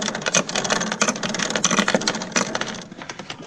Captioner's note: chain clinking